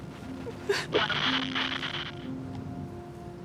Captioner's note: Static